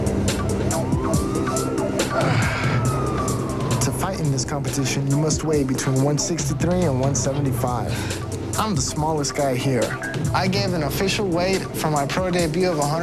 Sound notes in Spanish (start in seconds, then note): 2.0 groaning